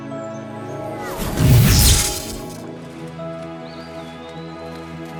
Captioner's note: electricity zapping; gentle music